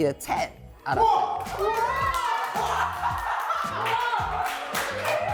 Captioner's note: screaming